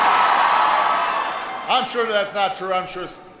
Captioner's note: applause